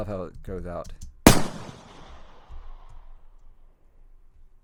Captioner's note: gun bangs